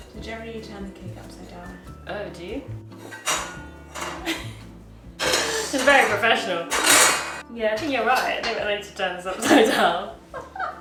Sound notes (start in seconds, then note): 0.0 relaxing jazz music; 3.3 tin clatters